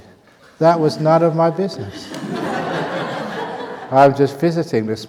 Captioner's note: laughter